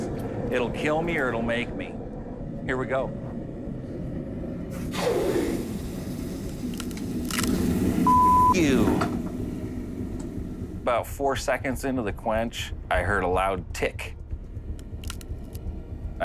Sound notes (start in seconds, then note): 4.6 sizzling; 7.1 cracking